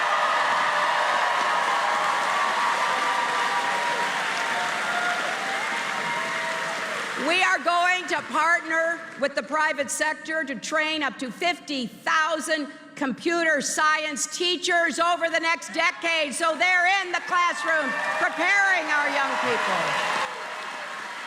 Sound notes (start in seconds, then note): 5.2 applause